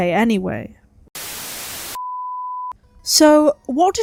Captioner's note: static